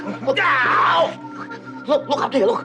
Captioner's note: yelling aggressively